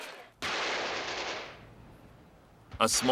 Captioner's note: gun fires